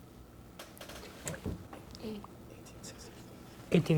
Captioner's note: whispering